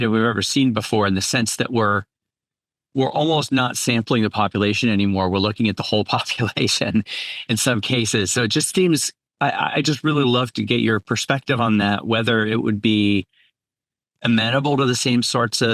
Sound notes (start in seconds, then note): 6.3 chuckles